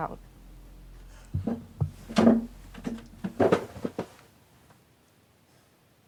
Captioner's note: Lance breathing uneasily